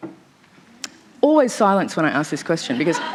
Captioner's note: laughter